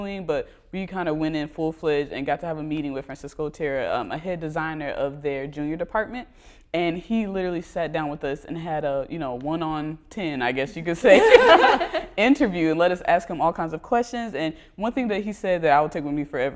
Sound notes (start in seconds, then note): 11.0 laughter